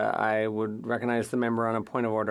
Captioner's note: speaking French